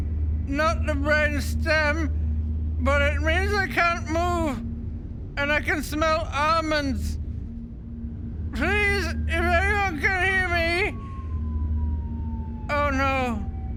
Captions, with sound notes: not the brain stem but it means I can't move and I can smell almonds. Please, if anyone can hear me. *ominous whistling* Oh no.